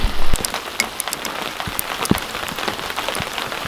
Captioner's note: rain falling